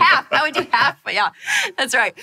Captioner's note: laughing